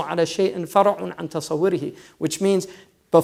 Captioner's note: foreign language; foreign languag